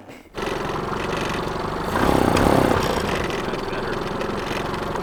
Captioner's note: engine whirring